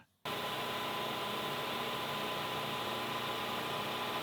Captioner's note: machine whirring